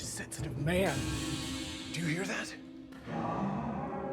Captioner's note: metal rattles